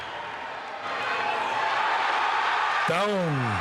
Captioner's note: audience cheering